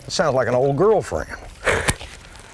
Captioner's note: laughter